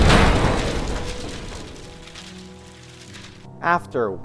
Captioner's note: explosion